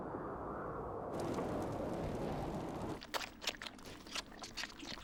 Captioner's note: fire crackles